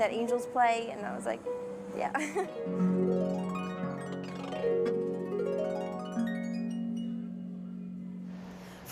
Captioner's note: laughs